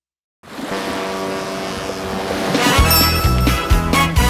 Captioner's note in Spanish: Sonido de marea; Música alegre